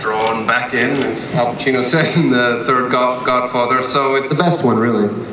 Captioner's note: laughs